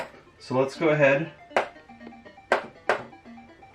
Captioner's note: taps board